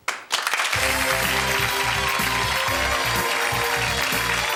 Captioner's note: audience clapping; theme music